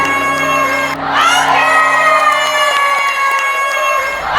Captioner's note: thunderous applause and cheers